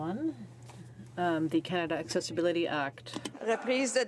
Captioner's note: speaking in french